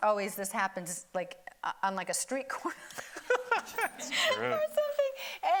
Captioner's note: everybody laughing